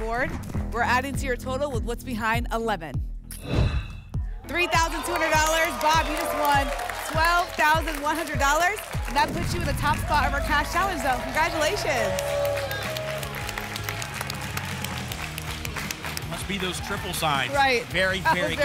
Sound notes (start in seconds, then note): 3.4 whoosh; 7.7 applause and cheering; 13.4 applause and cheering